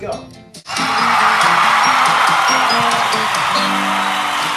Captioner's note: crowd cheering